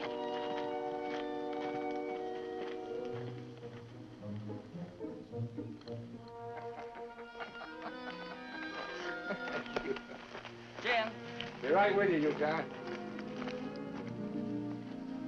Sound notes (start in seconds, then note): 6.5 Jim laughs